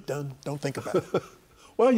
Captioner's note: laughing